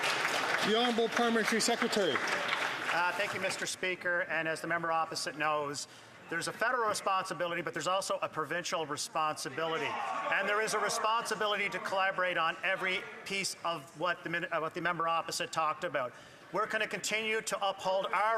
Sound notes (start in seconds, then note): 4.6 some Applause